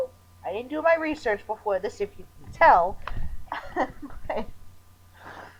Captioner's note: chuckling